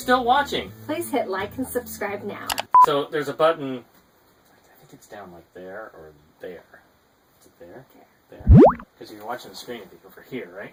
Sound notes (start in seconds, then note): 2.5 click and beep